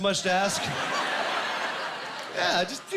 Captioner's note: laughing